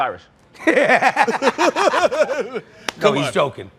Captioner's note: laughter